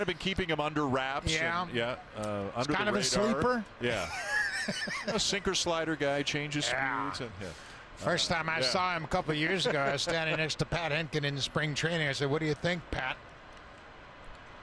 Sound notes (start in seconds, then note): 4.0 laughter